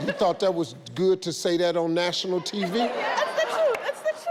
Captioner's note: audience laughs